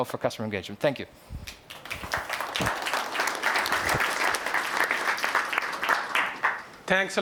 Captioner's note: applause